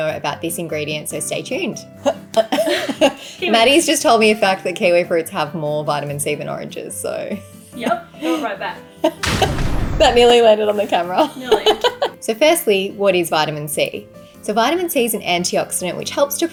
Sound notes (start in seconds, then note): 2.3 both laughing; 9.2 fire blasting; 11.4 laughing